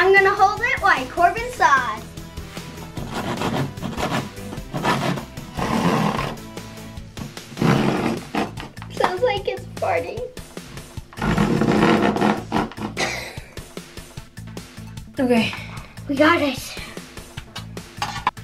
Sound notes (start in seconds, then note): 2.6 sawing sound; 11.1 sawing sound; 12.8 laughs